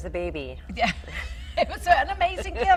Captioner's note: laughing